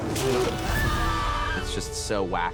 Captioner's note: screaming